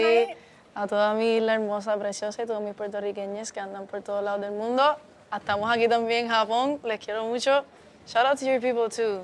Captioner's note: is speaking in Spanish